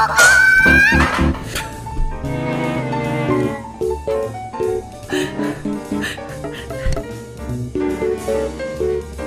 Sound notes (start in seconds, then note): 4.6 inhaale; 4.6 inhale; 4.7 inhaaale; 4.8 inhle; 4.8 huuh